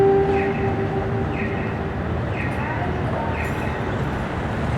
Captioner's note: crosswalk chirping